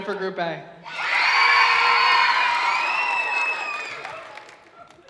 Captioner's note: audience cheering